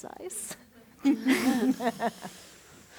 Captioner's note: laughter